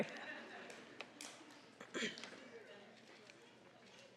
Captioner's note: audience laughing